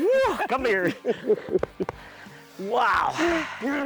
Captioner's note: both laughing